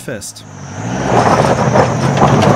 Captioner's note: scratching noises